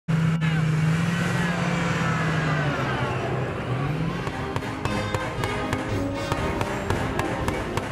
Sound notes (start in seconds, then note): 4.3 gunshots